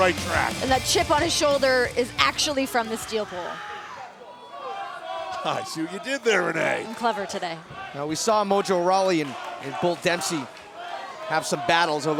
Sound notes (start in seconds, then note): 3.5 crowd cheering